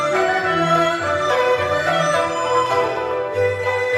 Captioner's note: none